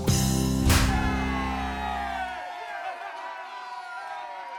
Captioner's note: cheers